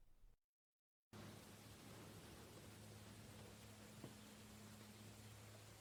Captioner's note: camera static